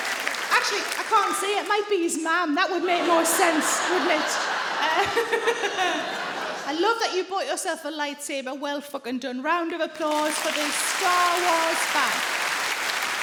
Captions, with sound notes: Actually, I can't see, it might be his mam. That would make more sense, wouldn't it? [SARAH CHUCKLES] I love that you bought yourself a lightsaber. Well fucking done. Round of applause for the Star Wars fan.